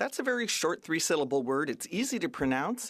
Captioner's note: speaking French